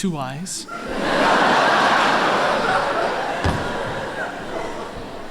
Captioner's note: laughter